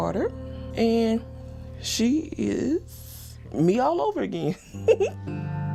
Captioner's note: laughs